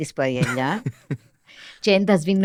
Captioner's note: he laughs